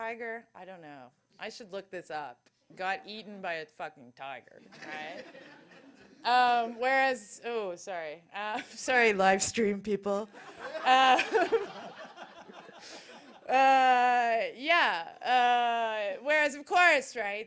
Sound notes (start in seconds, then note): 10.3 laughter